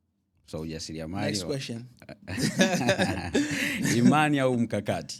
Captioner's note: laughter